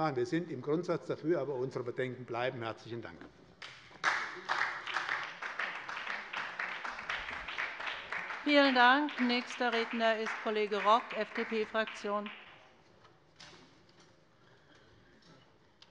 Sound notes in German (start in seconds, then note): 3.6 Beifall bei der SPD